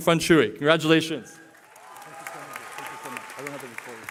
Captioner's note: cheering